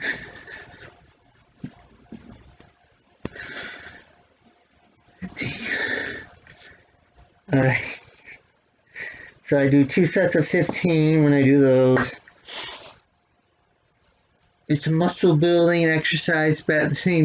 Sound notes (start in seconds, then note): 13.2 sighs